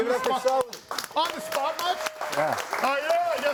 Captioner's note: audience applauding